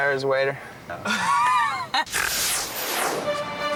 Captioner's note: laughing; orchestral music